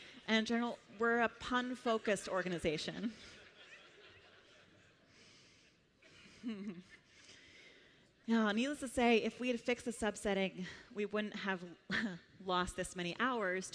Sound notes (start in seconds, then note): 3.0 laughter